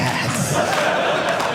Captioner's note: audience laughing